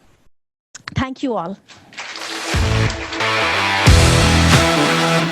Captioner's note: audience applauding